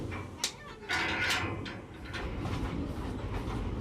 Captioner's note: gate closes